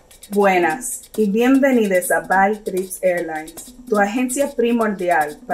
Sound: speaks in foreign language

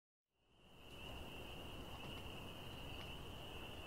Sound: crickets

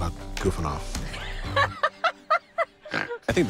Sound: laughs

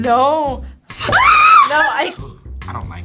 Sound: screams

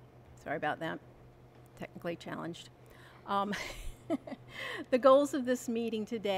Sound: laughs

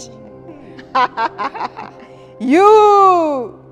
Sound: laughter

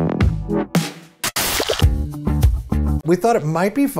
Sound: static / music

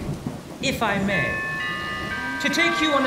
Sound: door bell rings

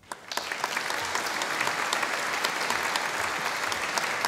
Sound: audience applauding

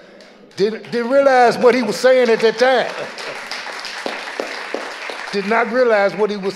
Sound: audience laughing; audience applauding

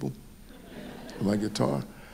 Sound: audience laughing

